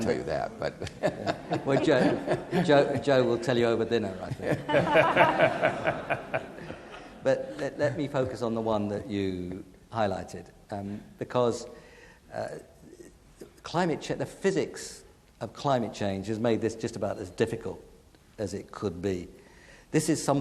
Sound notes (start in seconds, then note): 0.5 laughs; 4.5 audience laughing